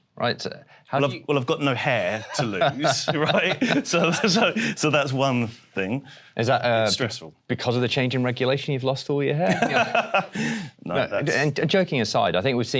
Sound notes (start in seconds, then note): 9.5 laughs